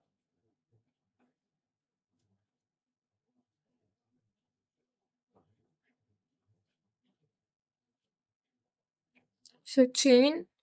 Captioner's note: silence